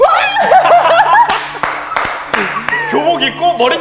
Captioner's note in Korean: 박수 타임